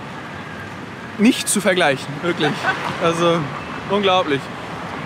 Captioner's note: laughs